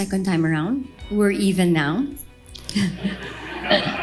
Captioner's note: laughs